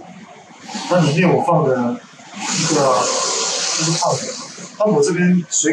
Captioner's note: motor